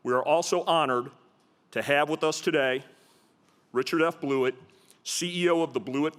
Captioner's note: none